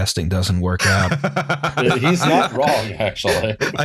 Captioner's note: laughter